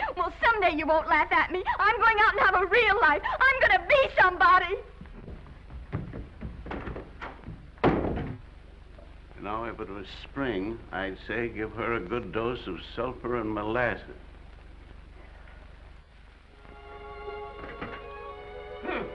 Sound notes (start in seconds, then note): 4.8 footsteps receding; 7.7 door bangs; 15.0 Mattie sighs; 16.5 gentle music